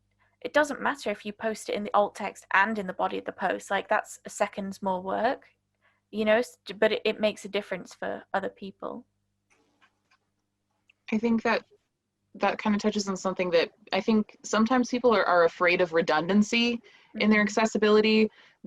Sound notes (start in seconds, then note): none